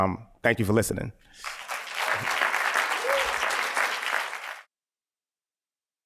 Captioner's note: applause